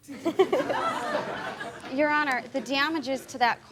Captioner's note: laughter